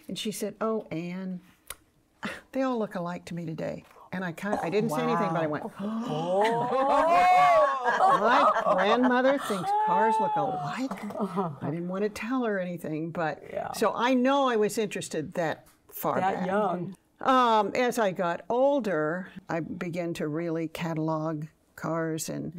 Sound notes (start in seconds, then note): 5.8 women laughing